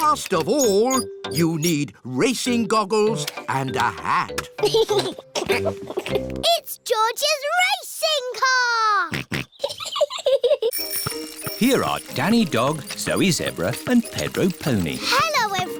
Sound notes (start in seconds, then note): 4.6 chuckles; 9.2 snorts; 9.4 chuckles